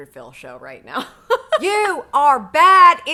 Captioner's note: laughing